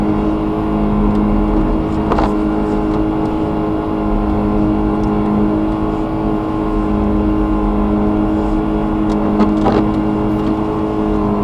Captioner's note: engine revving sounds